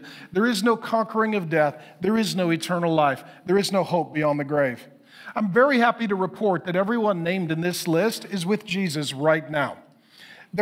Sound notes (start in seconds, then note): none